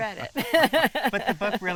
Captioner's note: laughing